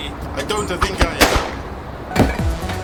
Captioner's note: gunshot booming; exciting beat music